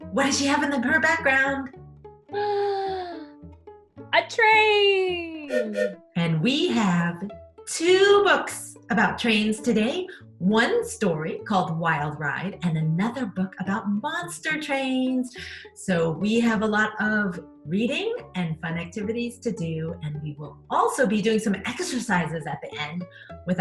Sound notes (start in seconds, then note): 2.4 gasps; 4.7 train beeps